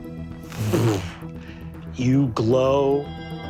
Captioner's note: imitates rumbling